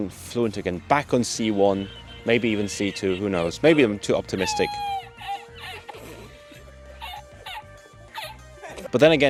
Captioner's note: hysterical laughter